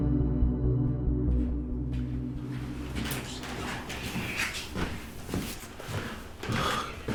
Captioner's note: Chris whispering; footsteps tapping